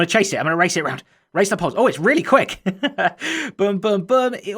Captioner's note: chuckles